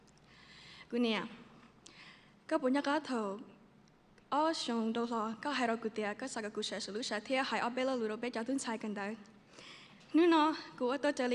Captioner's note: speaks to her mother in foreign language